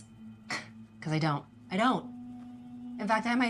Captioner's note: scoffs